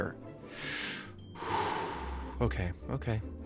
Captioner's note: inhales deeply